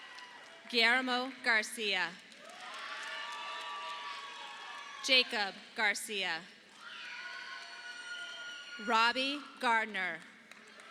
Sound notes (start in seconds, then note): 2.4 audience applauding